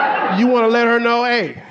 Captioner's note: audience laughing